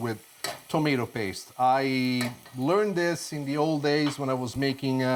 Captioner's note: spoon taps